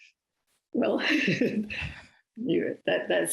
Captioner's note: laughing